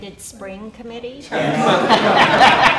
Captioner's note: laughter & Multiple Speakers